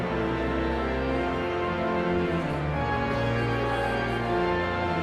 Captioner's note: energetic organ music continues; audience chattering continues